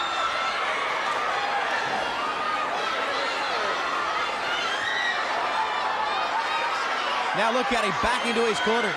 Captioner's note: crowd cheering